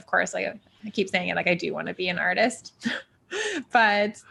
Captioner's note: chuckles